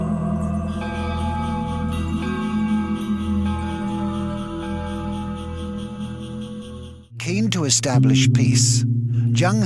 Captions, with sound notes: (bell ringing) Keen to establish peace,